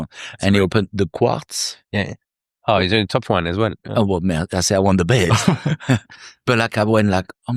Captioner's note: laughing